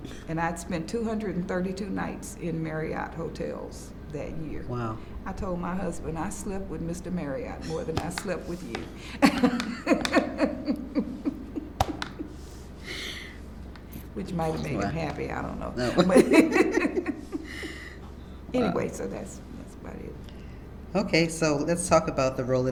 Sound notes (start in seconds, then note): 9.0 laughs; 15.8 laughter